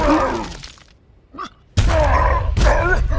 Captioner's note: groaning